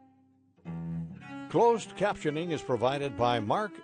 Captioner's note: voiceover